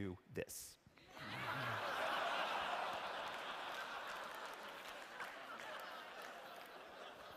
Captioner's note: laughter